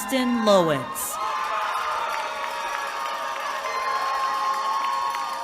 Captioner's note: cheering